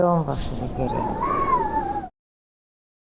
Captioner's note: wind howling